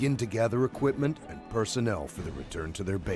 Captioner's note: voiceover